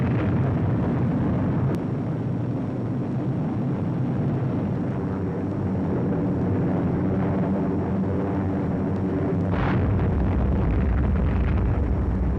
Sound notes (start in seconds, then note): 3.3 airplane engines droning; 9.5 bombs booming